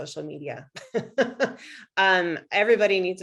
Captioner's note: laughs